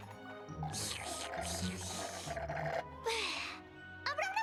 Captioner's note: slurp